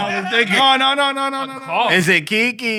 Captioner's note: non-english Speech